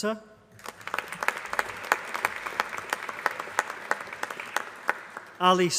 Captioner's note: applause